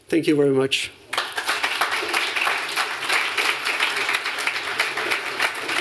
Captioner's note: applause